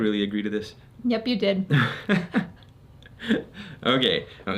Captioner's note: laughing